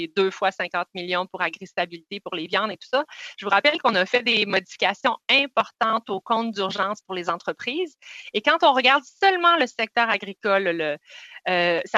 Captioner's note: speaking French